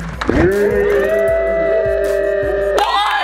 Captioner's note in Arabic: الكل يصرخ; الجميع يهتف